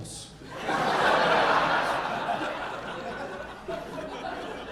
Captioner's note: audience laughing